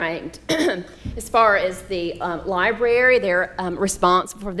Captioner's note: clears throat